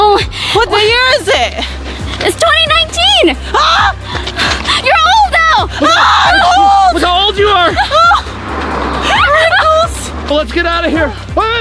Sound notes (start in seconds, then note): 7.4 screams; 9.0 sobs; 9.1 laughing